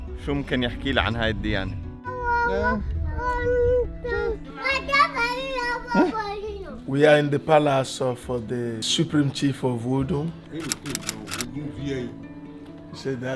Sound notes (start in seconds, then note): 3.1 kids playing and speaking gibberish